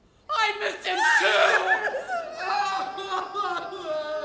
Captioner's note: both sobbing